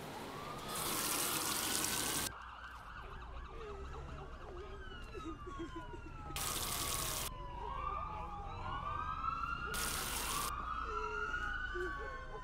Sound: sirens wailing; people crying

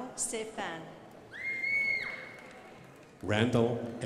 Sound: crowd applauding

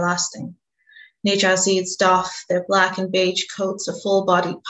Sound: speaks in Burmese

